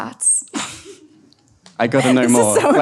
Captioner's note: and audience laughs